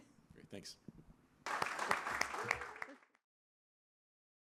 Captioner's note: applause